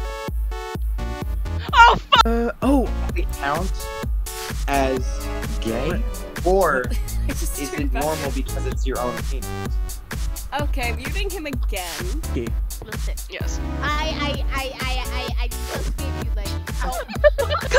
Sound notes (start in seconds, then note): 14.3 stammering; 16.8 laughter